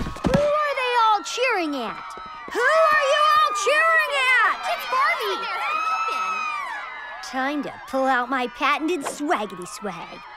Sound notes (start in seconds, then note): 5.8 screaming